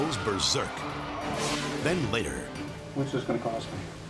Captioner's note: dramatic whoosh